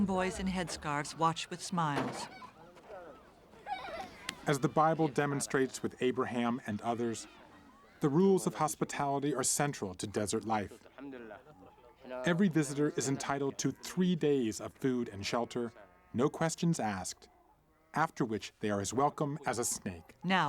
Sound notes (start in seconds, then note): 1.9 truck doors close